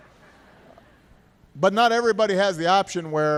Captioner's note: laughter